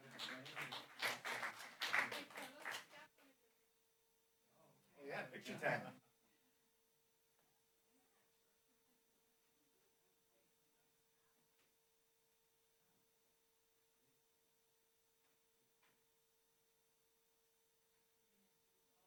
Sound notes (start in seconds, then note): 0.0 applause; 4.5 background chatter